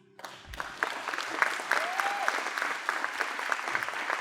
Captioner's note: applause